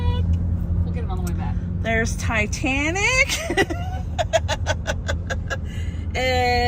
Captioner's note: laughing